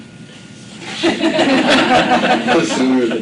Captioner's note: laughter